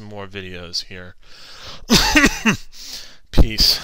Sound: cough

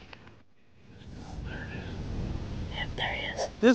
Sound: whispering

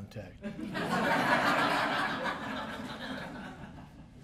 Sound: laughter

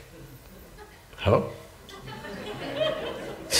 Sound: laughter

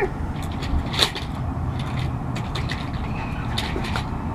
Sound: stroller rattling

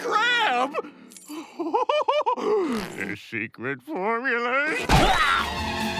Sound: laughing

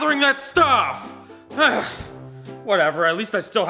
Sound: groans

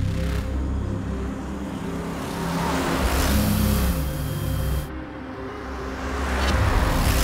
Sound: car Sound; engine Sound

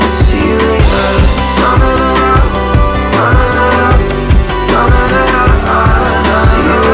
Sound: vocalizing

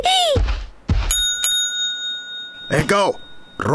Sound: bell dings

